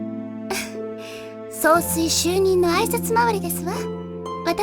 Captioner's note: chuckle